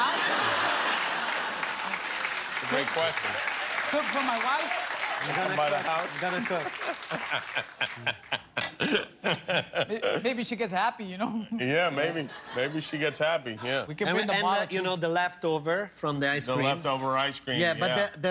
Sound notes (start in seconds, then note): 6.2 laughter; 6.9 cheers and applause